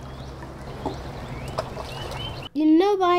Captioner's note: water splashes